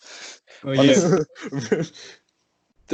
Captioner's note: laughs